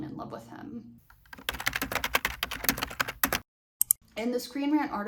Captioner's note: keyboard typing sounds